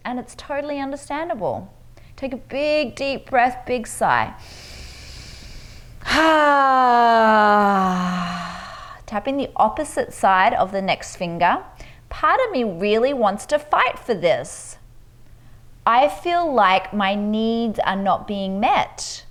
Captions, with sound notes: and it's totally understandable. Take a big, deep breath, big sigh. (inhales deeply) (exhales deeply) Tapping the opposite side of the next finger, part of me really wants to fight for this. I feel like my needs are not being met.